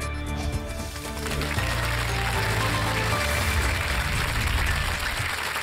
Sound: applause

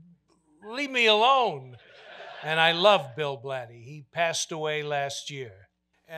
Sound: audience laughter

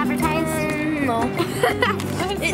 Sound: laughs

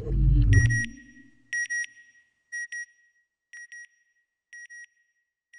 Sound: beeping

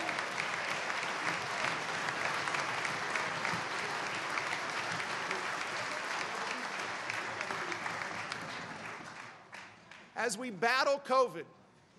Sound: cheers and applause

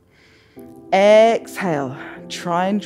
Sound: exhales; inhales

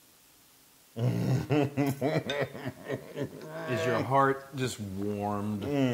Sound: laugh

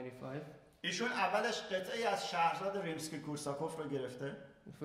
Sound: speaking in farsi

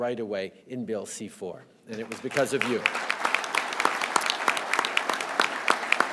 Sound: applause

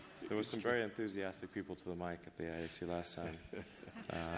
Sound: laughter

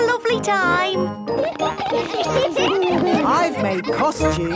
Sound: laughter

